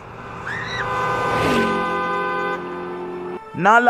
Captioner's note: Nala Screams